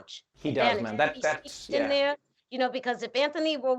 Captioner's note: murmurs